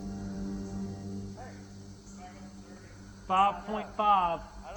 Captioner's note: faintly speaking